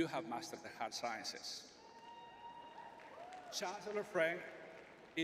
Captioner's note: crowd cheering